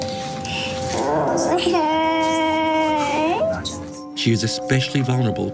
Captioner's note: crying